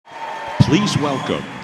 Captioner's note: cheering and applause